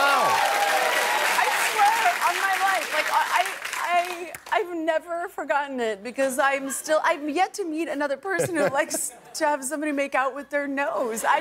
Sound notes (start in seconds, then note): 2.6 cheers and applause